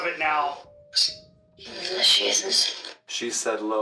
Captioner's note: box mutters